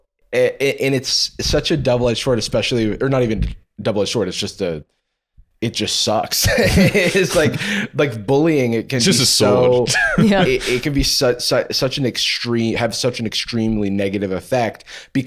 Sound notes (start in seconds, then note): 6.4 laughs